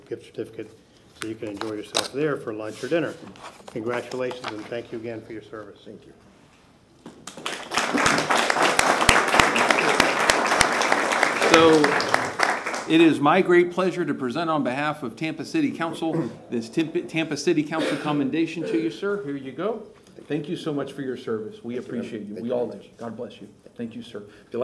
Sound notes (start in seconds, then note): 10.3 applause